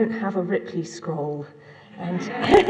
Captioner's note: laughter